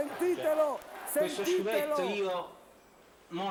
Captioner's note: Applauso